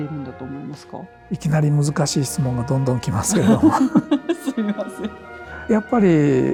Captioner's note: laughs